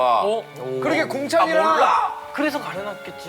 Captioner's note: purposely speaking up